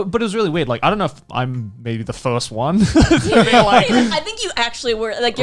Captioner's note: laughs